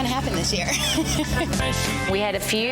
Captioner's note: laughs